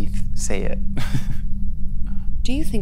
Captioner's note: laughs